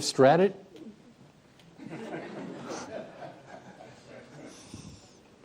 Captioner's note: laughter